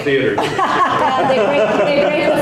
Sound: people laughing

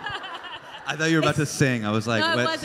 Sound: crowd laughs

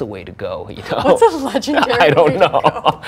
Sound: laughs

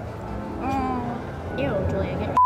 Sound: moans

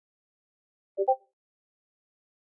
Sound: discord ping

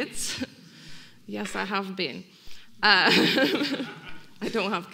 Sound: audience laughing; laughing

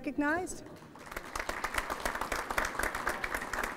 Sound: applause

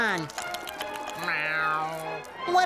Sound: meows

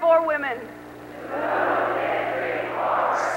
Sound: crowd repeats

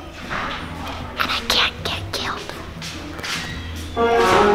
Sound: whispering

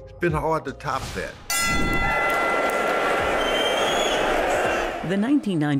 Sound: bell ringing; cheering

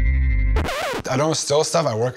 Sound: record scratching

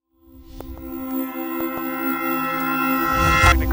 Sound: CB Aviation intro logo sound

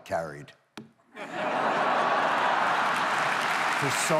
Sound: audience laughs

